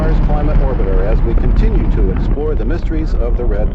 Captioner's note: rocket boosters blasting